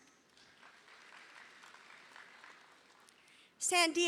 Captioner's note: audience applauding